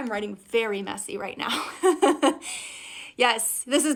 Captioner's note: laughs loudly